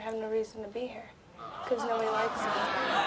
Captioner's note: audience groaning